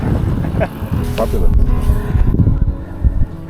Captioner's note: laughs